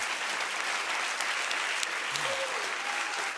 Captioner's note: cheers and applause